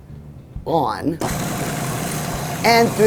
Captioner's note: humming